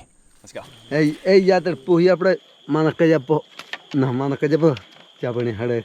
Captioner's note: speaking in foreign language